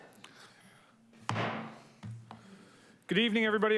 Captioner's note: gavel thuds